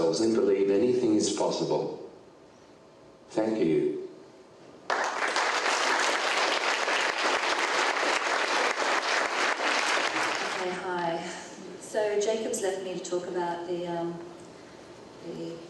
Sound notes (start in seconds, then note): 4.8 audience applauding